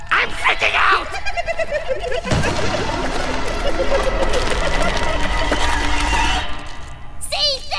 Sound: gremlin giggles intensify

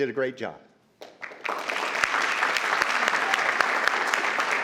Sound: crowd clapping

